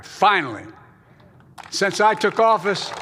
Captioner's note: applause